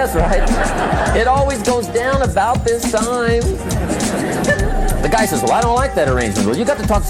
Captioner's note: laughter